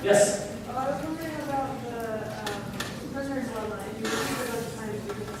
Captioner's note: voiceover